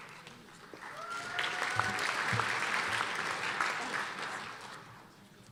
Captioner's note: applause and cheers